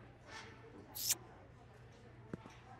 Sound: kiss

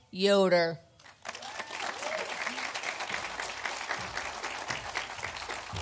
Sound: audience applauding

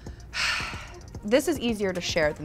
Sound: sighs

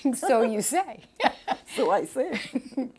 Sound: chuckles

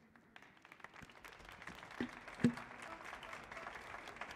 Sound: applause

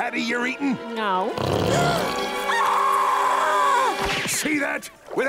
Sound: screaming

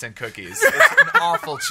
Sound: laughs

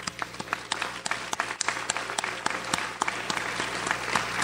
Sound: audience applauds

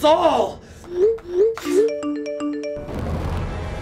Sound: multiple text message alerts go off

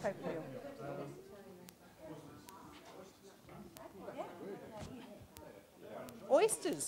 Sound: audience discussion

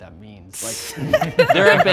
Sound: participants laughing

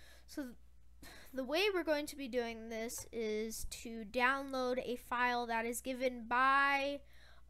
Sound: sigh

